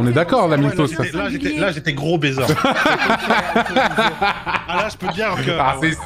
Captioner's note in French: rires